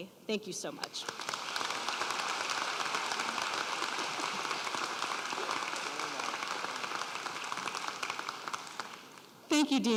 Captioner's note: applause